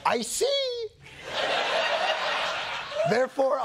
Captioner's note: laughter